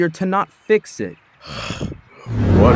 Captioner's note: groan